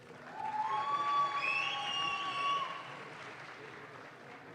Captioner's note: audience claps